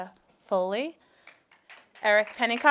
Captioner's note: applauding